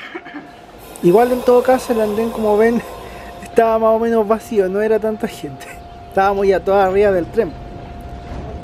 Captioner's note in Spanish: risas